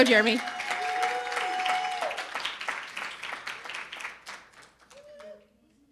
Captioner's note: audience cheering and applauding